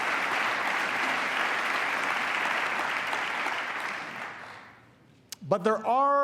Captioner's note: applause